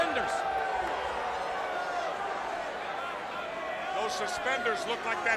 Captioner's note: crowd cheering